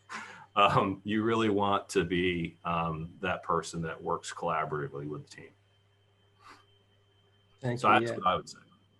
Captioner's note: laugh